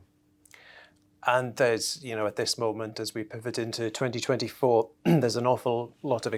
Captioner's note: cough